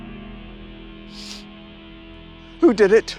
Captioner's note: Tom sniffles